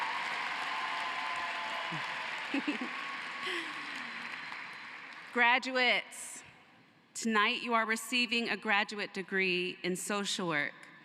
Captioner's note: cheering and applause